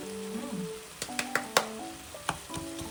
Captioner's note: I clap involuntarily... haha